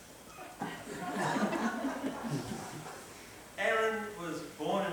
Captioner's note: laughter